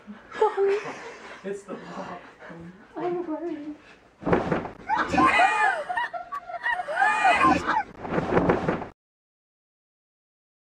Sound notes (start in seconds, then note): 1.4 jumpers mumbling; 5.0 laughter